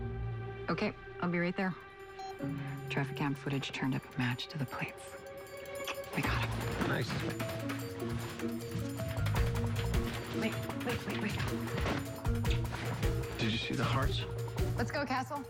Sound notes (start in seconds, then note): 2.2 beep